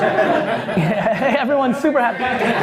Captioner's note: laughs